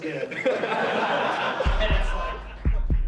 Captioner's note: crowd laughter